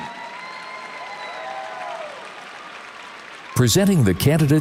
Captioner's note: audience cheers and applauds